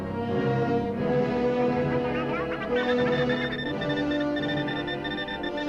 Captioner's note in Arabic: التقديم السريع للصوت، التصفير